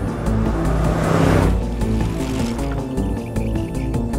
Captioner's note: engine revving; bike rattling